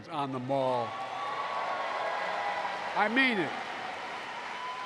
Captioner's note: applause